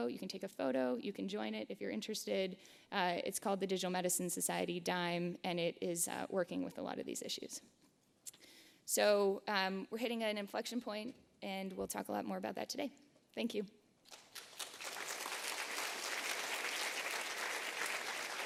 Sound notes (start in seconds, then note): 14.1 applause